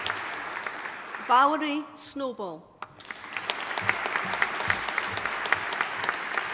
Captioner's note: audience applauding